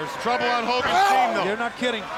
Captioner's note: wrestler grunts